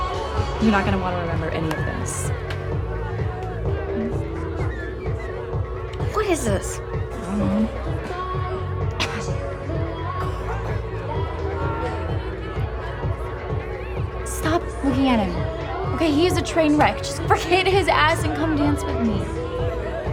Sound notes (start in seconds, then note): 8.8 coughs